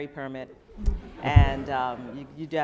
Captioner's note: laughing